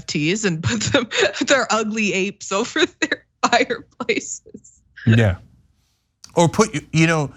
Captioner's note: laugh